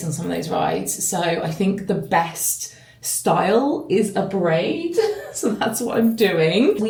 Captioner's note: chuckling